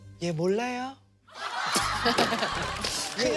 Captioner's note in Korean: 푸핫